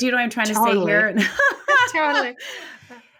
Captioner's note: laughing